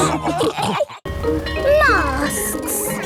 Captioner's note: bell ringing